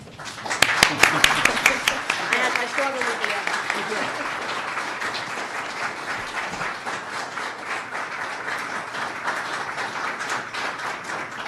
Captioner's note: applause